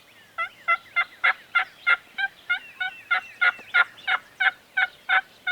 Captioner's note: birds tweeting; turkey call yelping